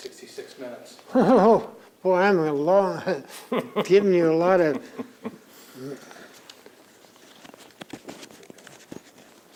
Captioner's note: laughs; laughs